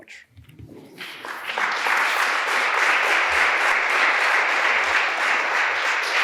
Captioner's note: applause